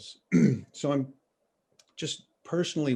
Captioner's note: clears throat